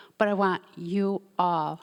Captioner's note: none